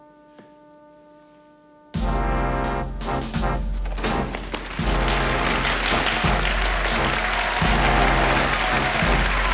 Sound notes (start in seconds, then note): 5.7 crowd cheering